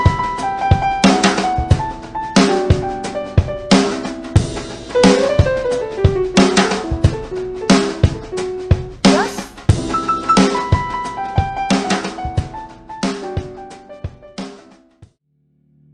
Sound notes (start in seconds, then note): none